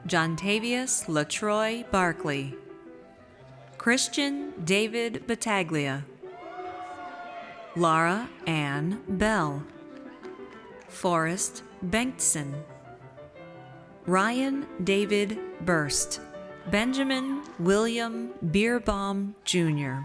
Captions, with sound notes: Johntavious La'Troy Barkley. Christian David Battaglia. (audience cheers) Laura Ann Beall. Forrest Bengtson. Ryan David Berst. Benjamin William Bierbaum Junior.